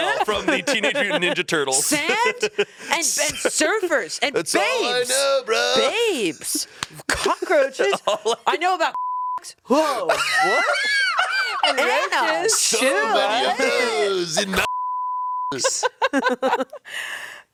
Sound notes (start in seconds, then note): 8.9 beep; 10.1 everyone laughs; 14.6 beep; 15.6 everyone laughs